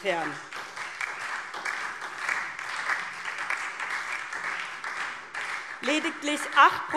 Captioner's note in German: Beifall SPD und DIE LINKE